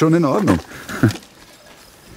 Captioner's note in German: Er lacht